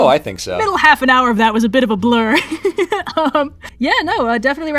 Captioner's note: laughs